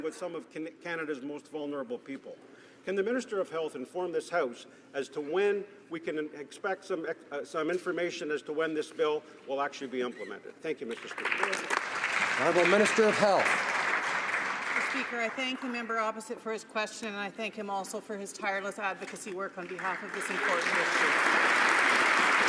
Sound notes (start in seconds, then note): 15.0 some Applause